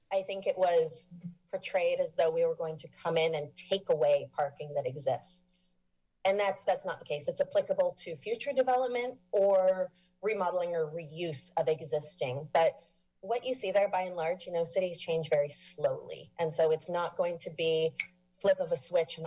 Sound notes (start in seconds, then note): none